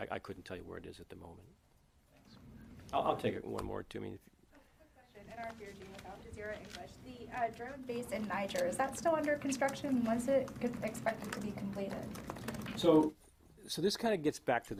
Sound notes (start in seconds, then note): 5.2 rustling drowns out reporter